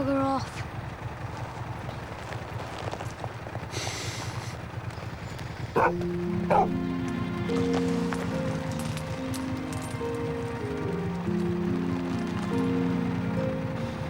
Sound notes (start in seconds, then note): 5.7 dog barking; 8.2 gentle music